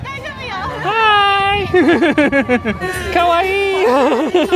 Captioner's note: laughing